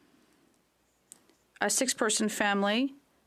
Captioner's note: speaking French